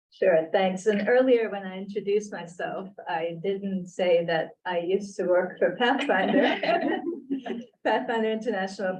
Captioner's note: laughter